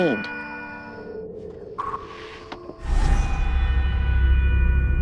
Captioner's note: eerie sounds